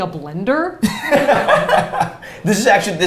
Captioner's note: both laughs